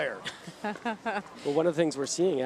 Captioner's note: laughs